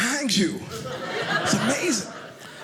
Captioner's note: audience laughing